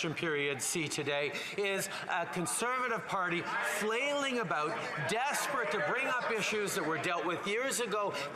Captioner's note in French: voix de l'interprète